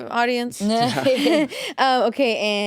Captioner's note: laugh